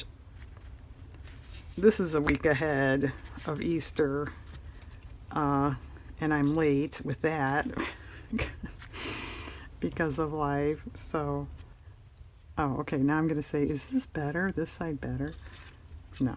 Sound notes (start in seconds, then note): 8.1 laughs